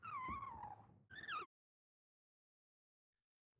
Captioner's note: marker squeaking